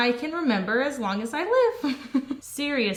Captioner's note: chuckles